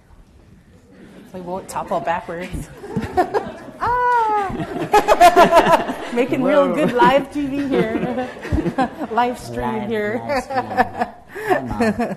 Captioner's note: laughter